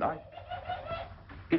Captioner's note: parrot squawks